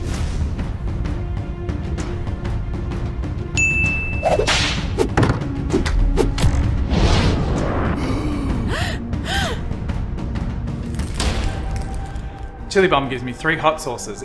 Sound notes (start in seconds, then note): 3.6 bell chime; 4.3 whip crack; 5.1 thumping on table; 8.6 gasp